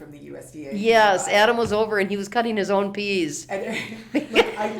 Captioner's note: pat